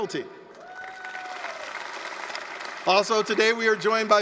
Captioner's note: applause, cheering